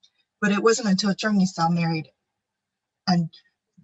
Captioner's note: faintly speaking